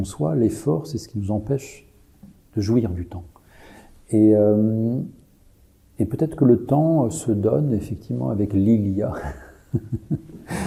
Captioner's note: laughter